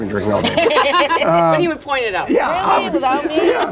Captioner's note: laughter